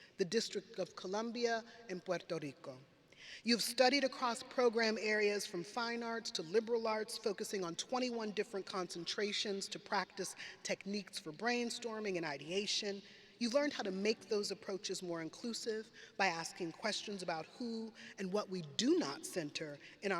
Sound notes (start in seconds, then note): none